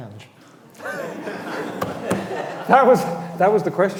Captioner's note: all laughing